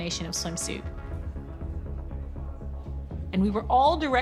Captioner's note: crowd chattering indistinctly